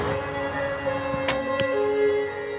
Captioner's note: bowstring twangs